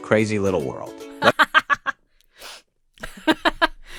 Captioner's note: laughs